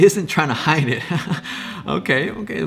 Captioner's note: laughs